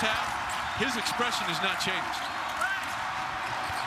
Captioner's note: indistinct chatters from TV